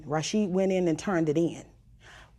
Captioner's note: none